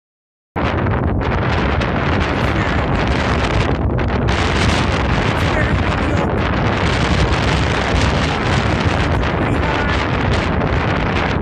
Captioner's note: stupid wind noises being annoying so we can't hear him